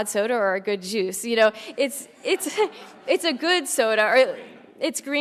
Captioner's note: laugh